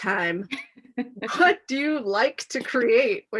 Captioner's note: laughs